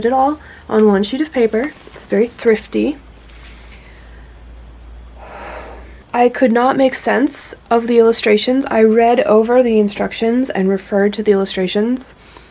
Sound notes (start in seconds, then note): 5.1 deep breath